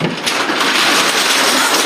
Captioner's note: roller shutter opening